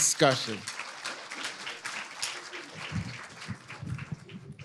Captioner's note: audience applauding